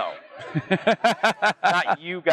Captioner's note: laughs